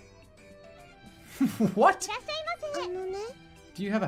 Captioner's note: chuckles